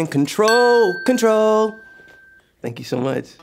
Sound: bell chimes

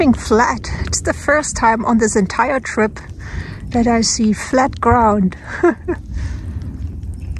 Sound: laughs

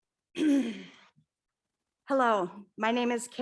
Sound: clears throat

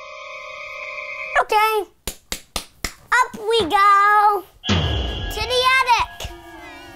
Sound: scary music; taps pencil

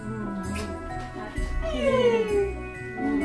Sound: kissing sounds; happy noises; kissing sounds

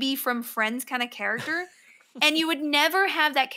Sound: laughs

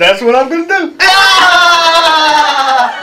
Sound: laughter

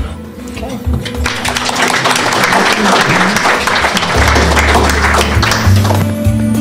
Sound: applause

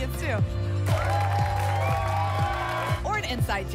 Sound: applause and cheering

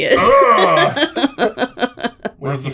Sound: laughing

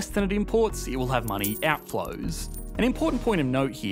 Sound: money whooshing and jingling

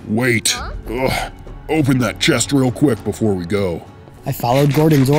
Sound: groan

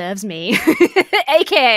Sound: laughs

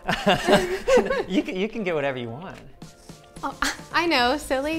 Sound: laughs

